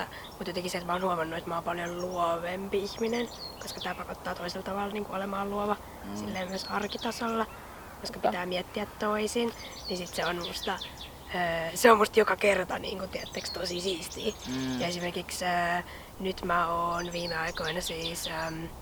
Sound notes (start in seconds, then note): 9.0 small birds singing; 17.3 smll birds chirping